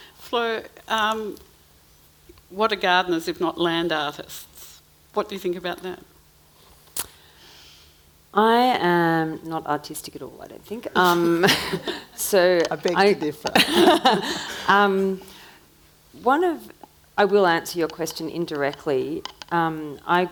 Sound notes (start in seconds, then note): 14.1 laughing